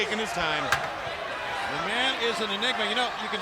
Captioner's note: chair clicking